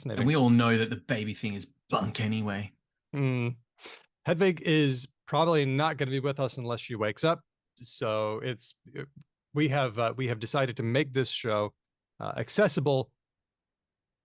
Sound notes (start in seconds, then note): none